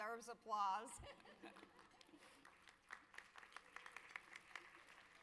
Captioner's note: audience applause